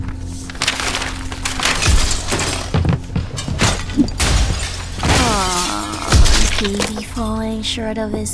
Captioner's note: gabriel throws a tantrum